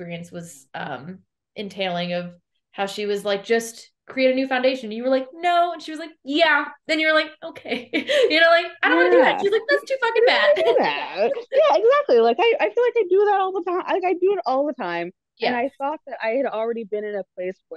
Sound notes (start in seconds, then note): 8.9 laughs